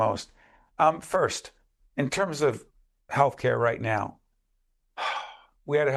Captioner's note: audible sigh